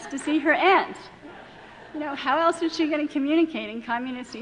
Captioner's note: laughing